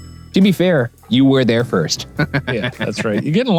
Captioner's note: laughs